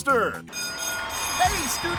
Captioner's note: school bell ringing